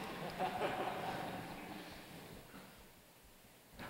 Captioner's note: laughs; laughter